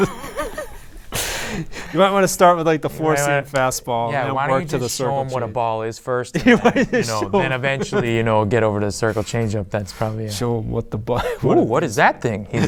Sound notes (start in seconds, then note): 11.2 laughing